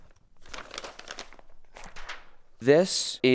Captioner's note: paper rustling